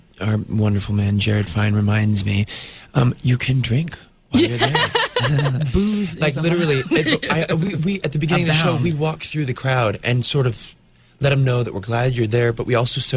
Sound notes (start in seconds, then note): 4.3 interviewer laughs; 4.4 laughs; 6.4 interviewer laughs